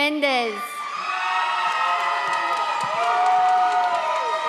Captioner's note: audience applauds